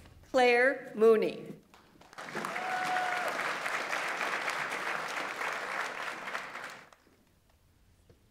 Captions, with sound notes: Claire Mooney. (audience applauds) (audience member cheers)